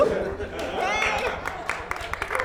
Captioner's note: applause